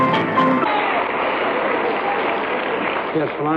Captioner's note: applause